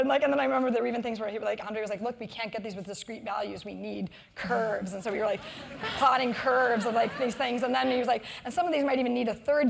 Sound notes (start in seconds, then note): 5.6 laugh